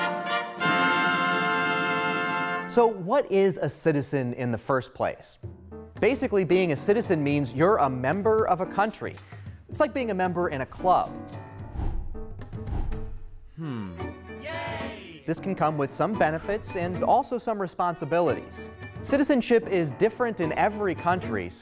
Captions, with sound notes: So what is a citizen in the first place? Basically, being a citizen means you're a member of a country. It's like being a member in a club. Hmm. (crowd cheering) This can come with some benefits and also some responsibilities. Citizenship is different in every country,